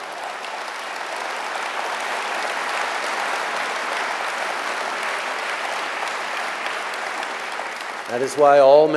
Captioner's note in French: Applaudissements